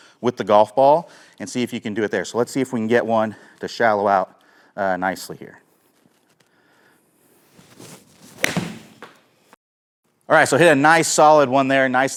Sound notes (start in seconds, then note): 8.2 club clanks